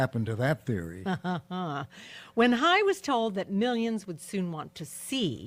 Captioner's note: laughs sarcastically